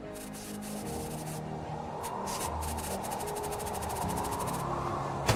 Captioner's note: wind whistling; staccato jets firing